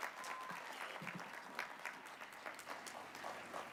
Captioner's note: applause